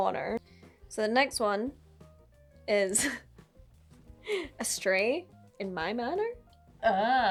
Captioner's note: laughs